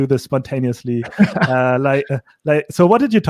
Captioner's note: laughing